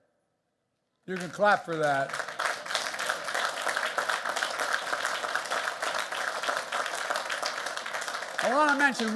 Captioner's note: applause